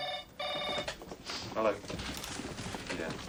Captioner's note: telephone rings